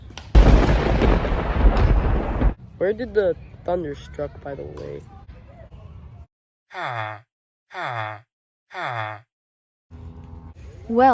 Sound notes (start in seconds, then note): 0.3 thunder struck from far away; 7.8 villager noises